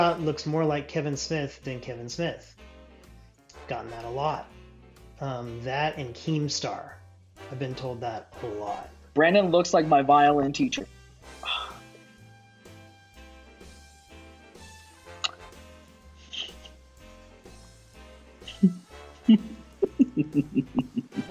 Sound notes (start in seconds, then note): 11.3 sighs; 19.2 chuckles